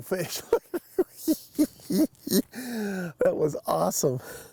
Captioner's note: snickering